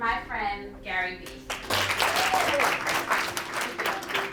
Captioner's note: applauding